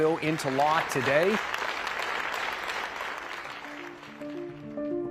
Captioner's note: group applauding; suspenseful music